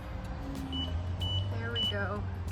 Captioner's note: camera beeping